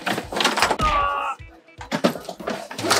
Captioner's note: struggling